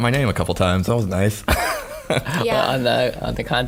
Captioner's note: laughing